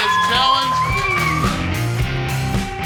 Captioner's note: crowd cheering; upbeat music